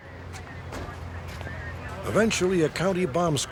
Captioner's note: police radio chatter